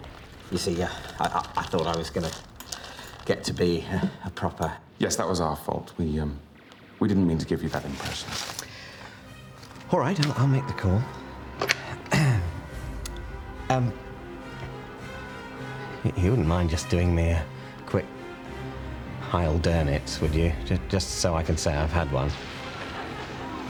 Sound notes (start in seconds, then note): 12.0 clears throat